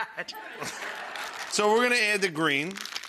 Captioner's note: audience laughing